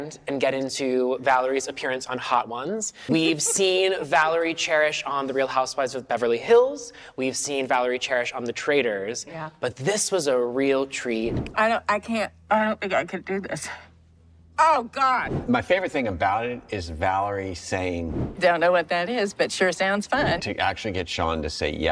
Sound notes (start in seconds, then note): 3.1 both laugh